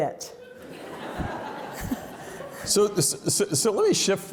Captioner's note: audience laughs